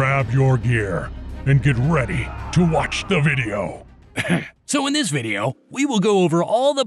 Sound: сough

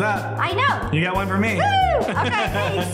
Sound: laughs

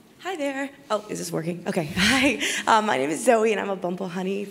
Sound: laugh

